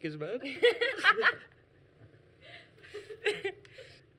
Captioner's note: laughs